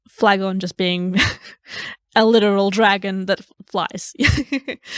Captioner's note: laughing